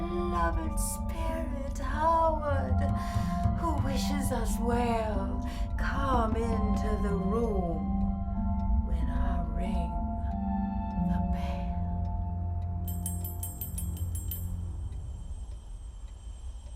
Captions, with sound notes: Oh, beloved spirit Howard, who wishes us well, come into the room when I ring the bell. (bell rings)